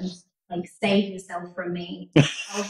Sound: laughs

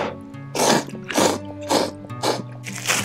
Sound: slurps

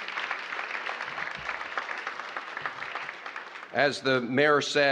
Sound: applause

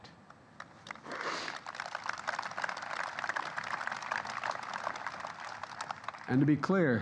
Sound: applause

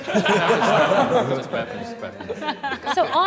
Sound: all laughing

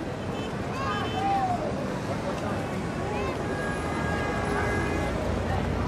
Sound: hectic street traffic

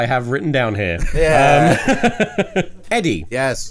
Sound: laughs

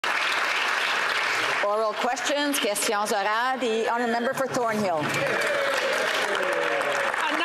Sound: some Applause

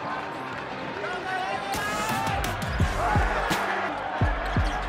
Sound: crowd yelling

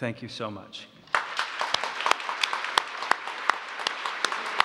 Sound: applause

